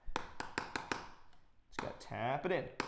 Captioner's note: loud tapping